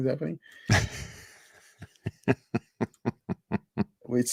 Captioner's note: laughs